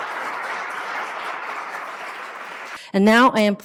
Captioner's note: applause